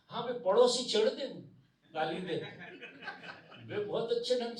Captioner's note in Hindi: हंसी